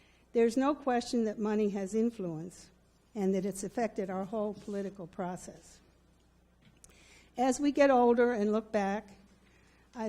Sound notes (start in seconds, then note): none